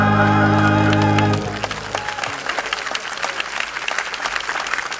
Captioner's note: audience applauding